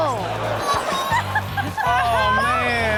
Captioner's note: child crying